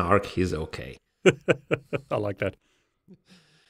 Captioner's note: laughs